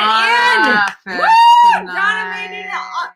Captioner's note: screaming